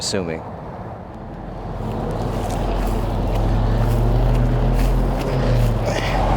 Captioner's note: traffic droning; gentle music continues